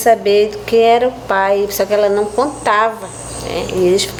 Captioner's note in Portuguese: pássaros cantando